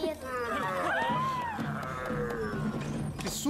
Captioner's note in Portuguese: gritos; rugido